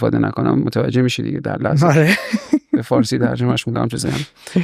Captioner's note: laughs